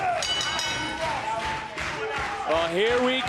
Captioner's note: bell ringing